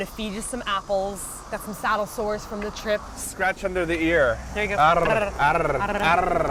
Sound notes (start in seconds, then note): 4.8 man-made purring